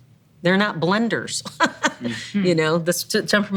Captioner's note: laughs